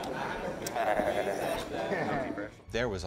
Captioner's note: babbling